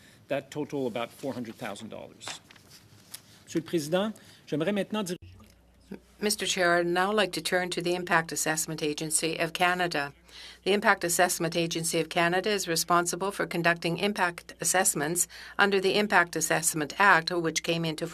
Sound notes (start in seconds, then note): 9.1 speaking French